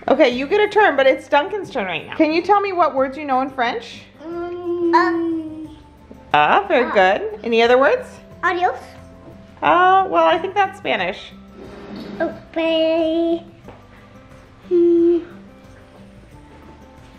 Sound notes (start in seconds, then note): 5.3 speaks foreign language; 6.8 foreign language; 8.5 speaks in foreign language